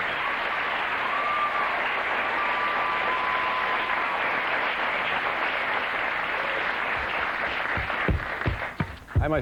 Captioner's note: cheers and applause